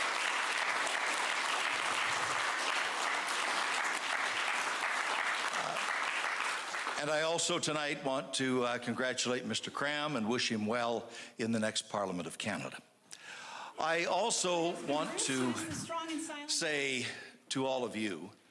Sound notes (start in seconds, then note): 6.0 applause